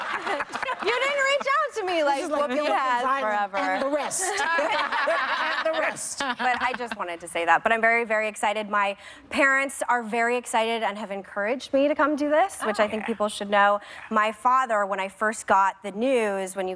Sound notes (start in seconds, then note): 0.0 applause; 3.3 laughter